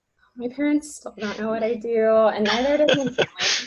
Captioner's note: laughs